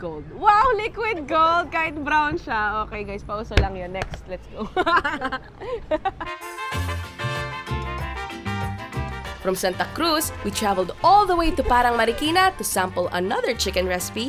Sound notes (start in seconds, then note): 4.6 laughs